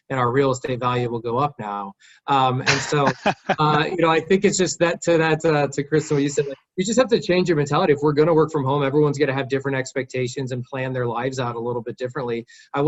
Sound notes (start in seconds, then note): 2.6 laughing